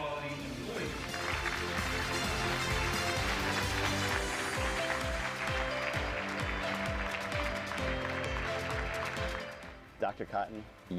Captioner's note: applause and Music